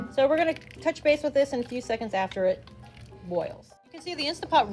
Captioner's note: beans boiling